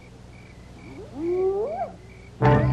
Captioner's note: hyenas howling